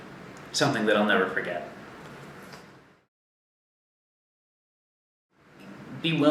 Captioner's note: silence